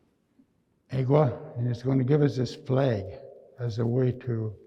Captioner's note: speaking in Nêhiyawêwin